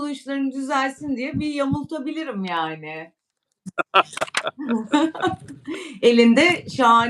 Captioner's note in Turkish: kahkaha